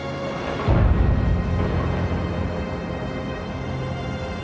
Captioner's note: explosions